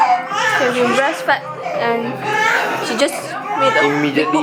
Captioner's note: distracted by the other baby's wailing